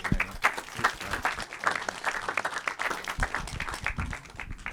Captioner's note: audience applauding